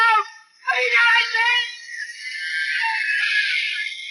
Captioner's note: Mortis screams